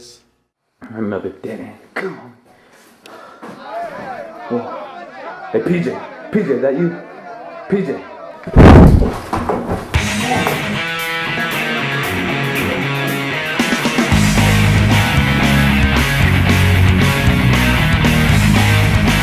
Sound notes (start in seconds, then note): 8.5 boom; 9.9 hard rock music playing